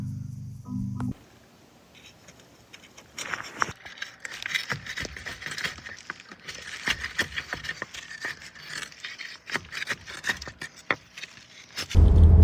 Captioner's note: crunching